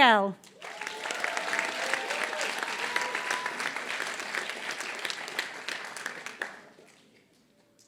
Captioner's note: applause